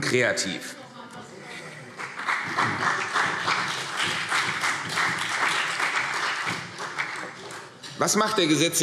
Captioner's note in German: Heiterkeit und Beifall CDU und BÜNDNIS 90/DIE GRÜNEN